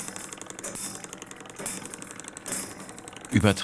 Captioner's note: soft rattling and tapping